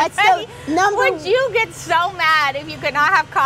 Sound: laughs

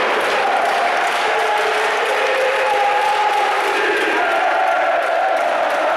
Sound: fans chanting

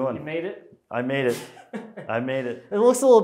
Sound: laughing

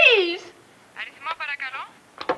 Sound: Greek spoken audio

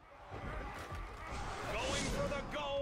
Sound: cheering

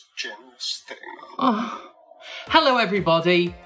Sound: moans

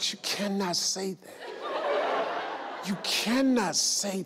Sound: audience laugh

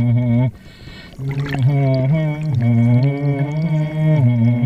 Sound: humming

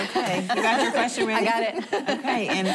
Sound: laughing

